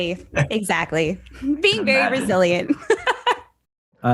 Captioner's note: laughs